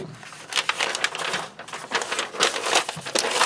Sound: paper crinkling

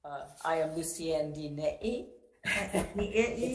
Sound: chukles

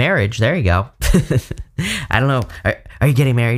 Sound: laughs

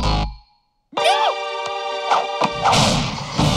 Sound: yelps

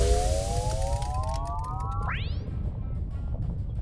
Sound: rocket taking off

